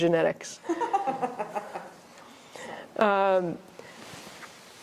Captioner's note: laughter